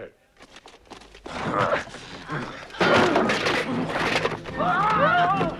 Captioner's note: Hundra and guards grunting; dramatic music